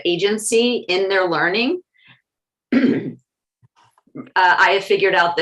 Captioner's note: cough